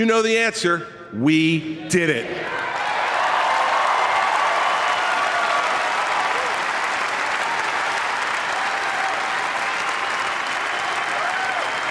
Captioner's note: applause